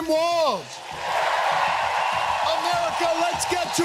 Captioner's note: crowd cheering